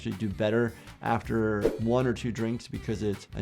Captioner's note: screen whooshing